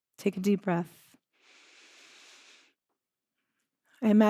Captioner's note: inhales deeply